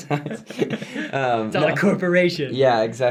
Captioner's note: laughs